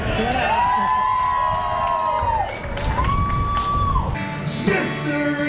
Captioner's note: audience cheering